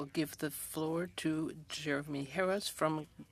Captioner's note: speaking French